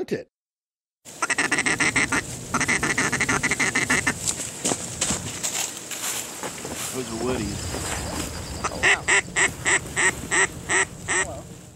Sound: duck call sounds

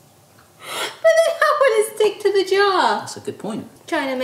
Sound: laughing

